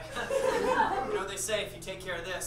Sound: audience laughs

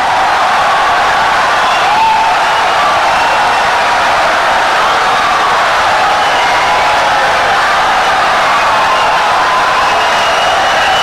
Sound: wild applause and cheering for 17 seconds

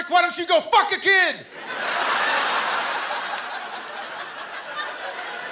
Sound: laughter

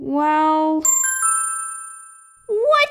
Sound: ding!

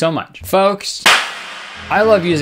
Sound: claps

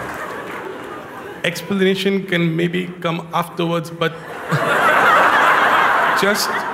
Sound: laughter

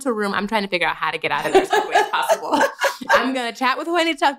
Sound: laughter

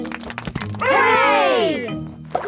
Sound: crowd applauding

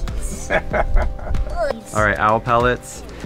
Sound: old man laughs

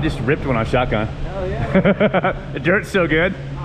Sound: laughs

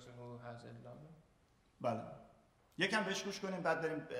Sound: speaking in farsi

